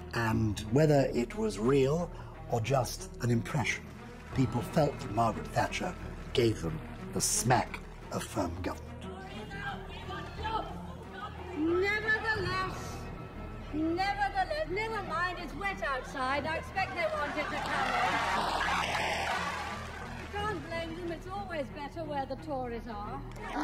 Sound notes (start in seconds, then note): 18.7 audience cheering and clapping